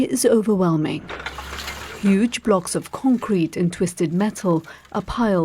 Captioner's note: debris falling